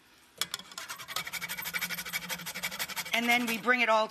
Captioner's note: nutmeg grinding